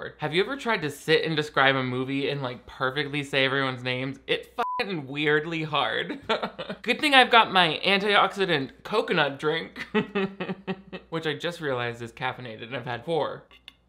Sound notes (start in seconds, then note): 4.6 beep; 9.8 laughing